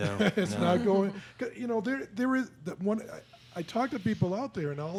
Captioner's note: laughing